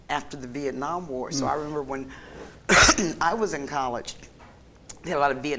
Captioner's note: coughs